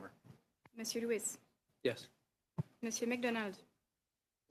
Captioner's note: speaking French